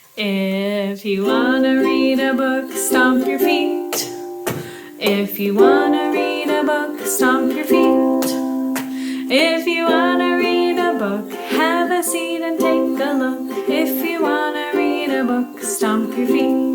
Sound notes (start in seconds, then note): 4.4 stomping feet; 8.7 stomping feet